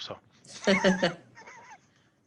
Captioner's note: laughter